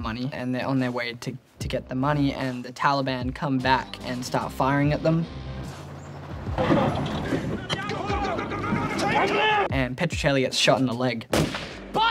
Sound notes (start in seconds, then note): 6.4 truck rumbling